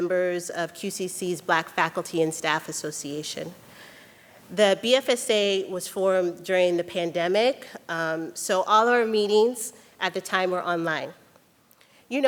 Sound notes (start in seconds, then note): none